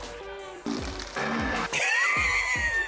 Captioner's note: gentle upbeat music; food sizzling; chuckles